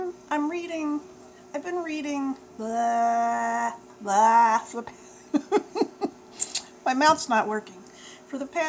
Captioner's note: laughs